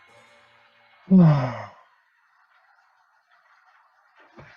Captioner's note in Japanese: ためいき